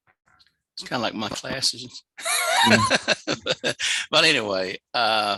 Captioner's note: laughs